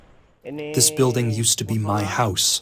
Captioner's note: through translator